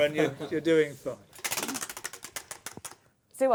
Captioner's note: ratcheting